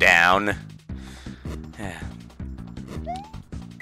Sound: breathing

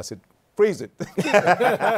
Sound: laughter

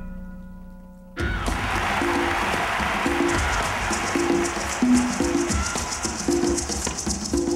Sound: applause

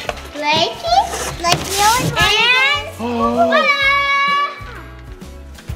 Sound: overlapping chatter

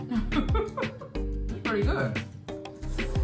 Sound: laughing

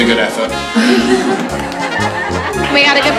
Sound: people chuckle

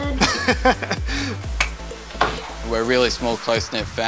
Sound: laughs

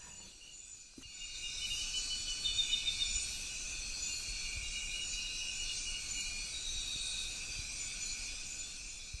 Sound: sounds of the jungle at night

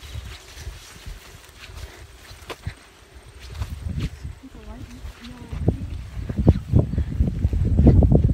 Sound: sound of footsteps

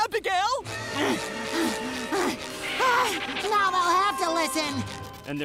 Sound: grunting

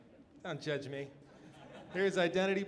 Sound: audience laughs

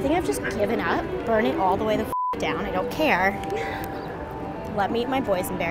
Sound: beeps

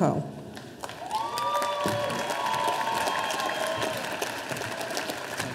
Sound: audience applauding

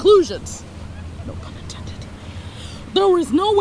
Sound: whispering

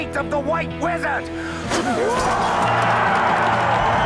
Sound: spits; crowd Roars

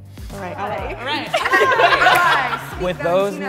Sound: everyone cheers and laughs

